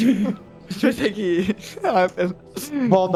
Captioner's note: laughing